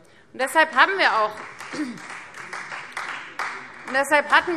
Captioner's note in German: Beifall Freie Demokraten